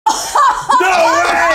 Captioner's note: laughing